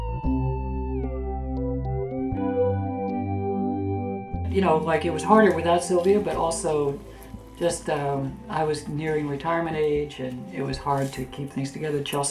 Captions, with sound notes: - [Voiceover] You know, it was harder without Sylvia, but also just um, I was nearing retirement age, and it was hard to keep things together.